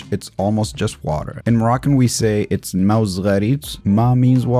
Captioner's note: speaking in Moroccan